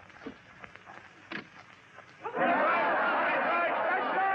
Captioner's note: crowd clamoring